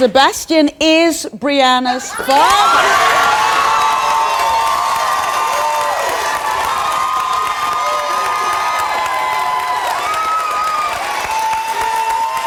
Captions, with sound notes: Sebastian is Breanna's father. (audience cheering)